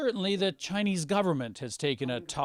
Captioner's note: speaking chinese